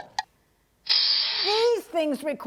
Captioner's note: ratchet sound